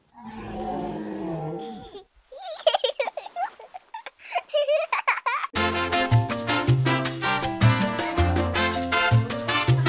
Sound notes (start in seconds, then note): 2.3 baby laughing; 5.5 upbeat music